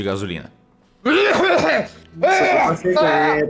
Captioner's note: coughs a lot